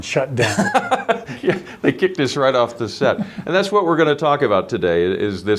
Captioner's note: laughing